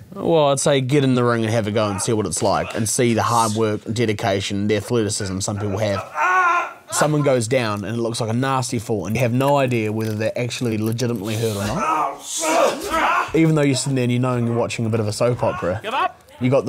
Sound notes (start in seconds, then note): 5.4 groaning; 11.2 groaning